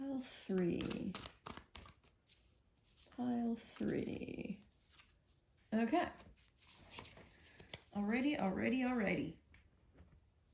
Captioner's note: shuffling